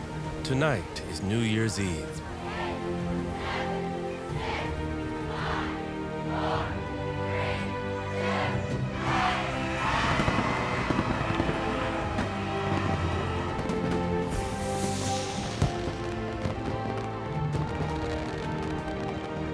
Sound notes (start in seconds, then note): 9.7 all cheering